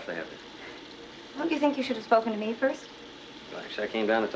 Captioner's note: chortles